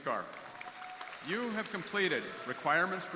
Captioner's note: crowd applauding